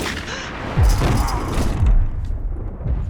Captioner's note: gasps; thud, grunt